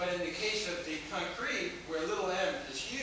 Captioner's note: none